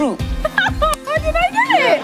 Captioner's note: Nadiya laughs